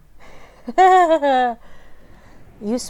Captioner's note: nervous, grossed out laughter